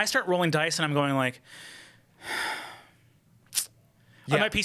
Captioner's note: sighs